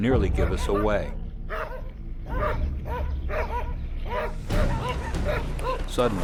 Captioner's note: dogs barking